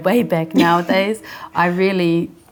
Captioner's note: laughing